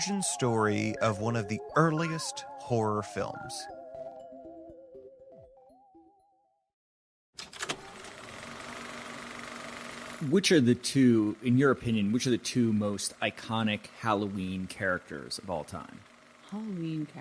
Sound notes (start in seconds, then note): 4.8 movie reel sound